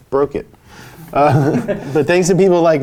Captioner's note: guffaws